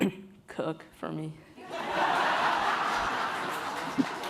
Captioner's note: laughing